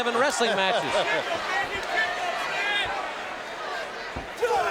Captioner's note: audience cheering